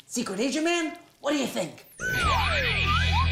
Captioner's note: whispers